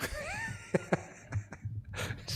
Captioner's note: laugh